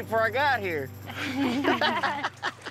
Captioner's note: laughter